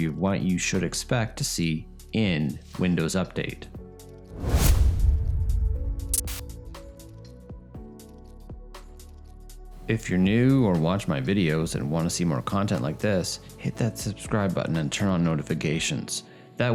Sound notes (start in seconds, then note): 4.4 wind gusts; 5.9 light music